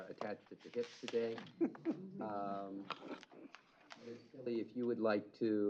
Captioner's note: chuckle